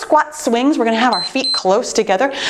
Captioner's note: timer beeps